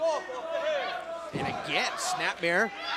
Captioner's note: crowd chatter